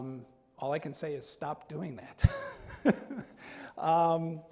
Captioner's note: laughs